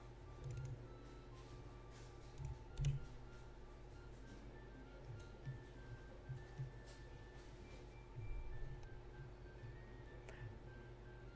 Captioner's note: clicks, taps